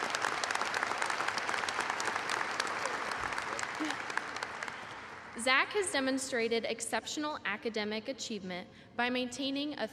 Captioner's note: applause